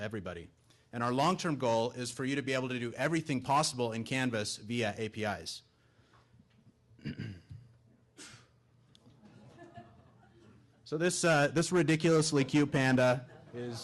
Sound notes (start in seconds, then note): 6.9 clears throat; 9.2 audience laughing